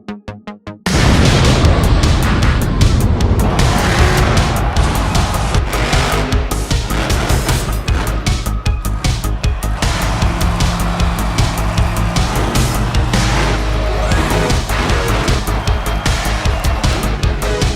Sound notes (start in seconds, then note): 0.8 explosion; 3.9 engines roaring